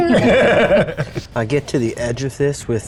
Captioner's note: players laughing